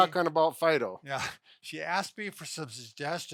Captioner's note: laughs